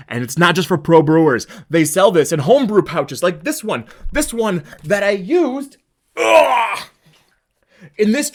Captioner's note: grunting